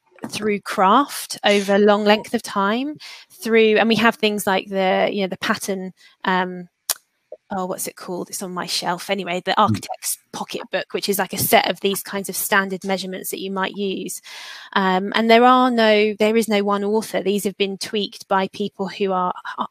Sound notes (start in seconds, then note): 14.6 erm